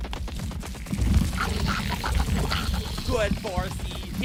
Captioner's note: aggressive screaming